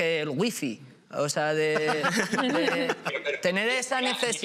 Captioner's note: laughs